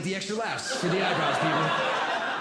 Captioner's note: audience Laughing